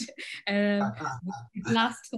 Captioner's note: laughing